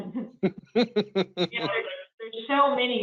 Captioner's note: laughing